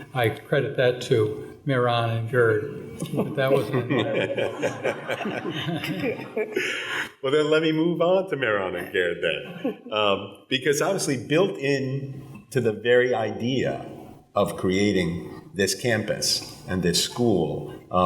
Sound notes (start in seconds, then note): 2.9 people laughing